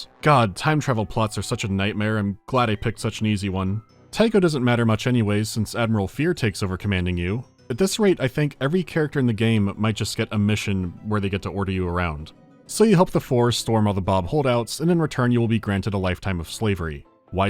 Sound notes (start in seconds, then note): none